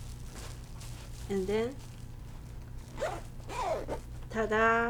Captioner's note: zipper zipping